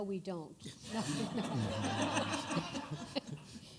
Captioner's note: laughter